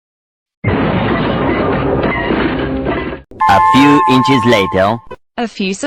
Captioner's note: kaboom!!!!!!!!!